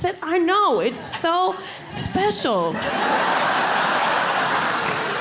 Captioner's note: audience laughing